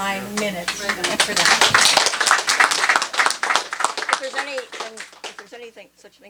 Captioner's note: applause